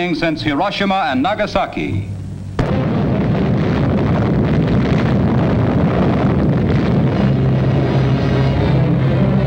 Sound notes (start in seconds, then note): 2.5 bomb blasting; 6.4 dramatic music